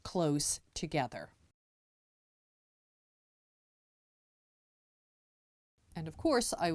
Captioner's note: no Sound Present